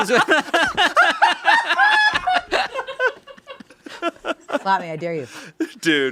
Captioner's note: laughing